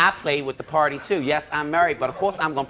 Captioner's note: audience laughing